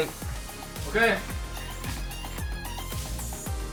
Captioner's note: crunch crunch